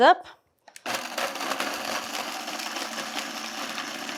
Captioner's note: blender whirring